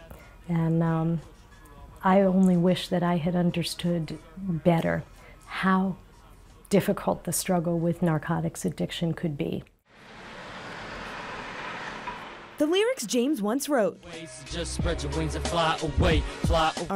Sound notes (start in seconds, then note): 9.9 traffic roaring